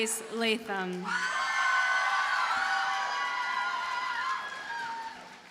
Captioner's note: audience cheers and applauds